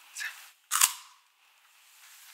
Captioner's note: crunchy